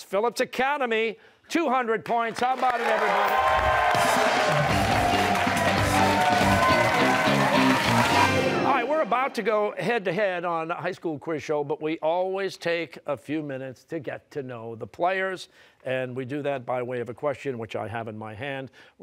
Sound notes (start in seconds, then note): 4.4 cheers and applause